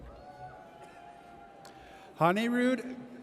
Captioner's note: audience cheers